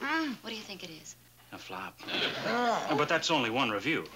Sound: Sandy groaning

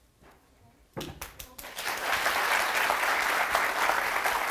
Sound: audience applauds

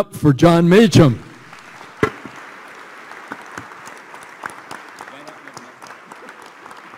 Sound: applause

